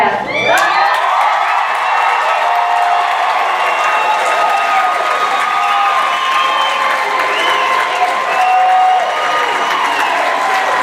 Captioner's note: cheering